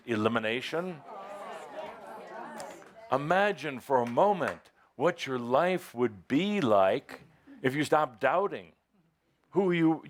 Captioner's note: audience agrees